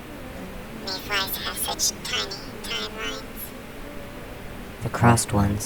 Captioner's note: small buzzing voice; The Buzzing voices